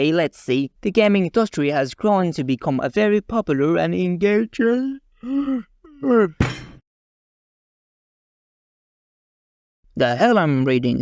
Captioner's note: yawn